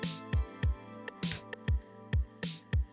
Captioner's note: snap